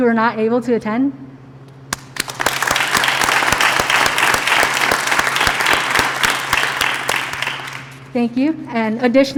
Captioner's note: applause